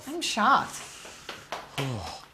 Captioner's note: sighs